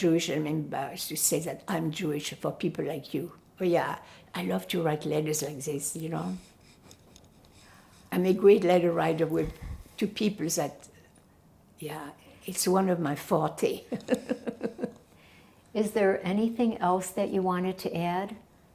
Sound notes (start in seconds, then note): 14.0 laughing